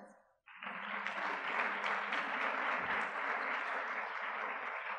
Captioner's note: audience clapping